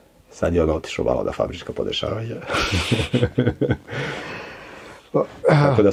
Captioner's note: laughs